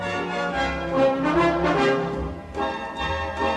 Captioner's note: none